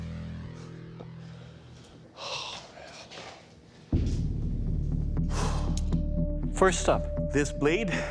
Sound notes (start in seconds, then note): 5.3 sigh